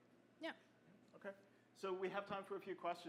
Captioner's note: voiceover